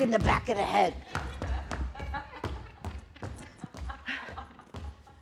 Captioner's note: laughter